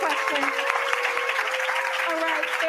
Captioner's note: cheering and applause